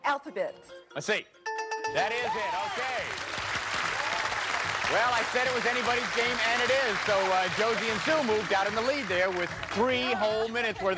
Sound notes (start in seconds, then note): 1.5 bell rings